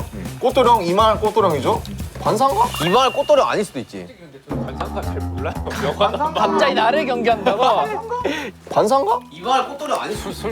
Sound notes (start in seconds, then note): 4.2 he speaks dialect